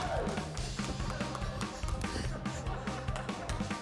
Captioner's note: laughter